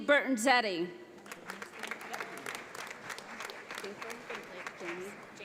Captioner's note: audience applauds